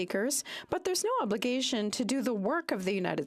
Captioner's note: speaking French